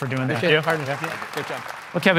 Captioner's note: applause